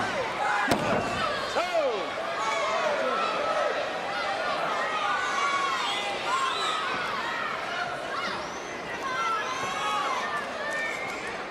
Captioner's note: crowd chatter